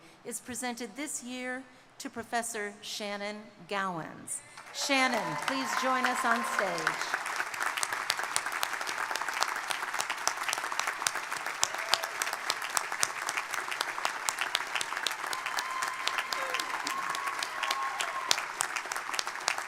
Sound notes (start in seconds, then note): 7.2 crowd applauding; 7.2 crowd cheering; 16.1 crowd cheering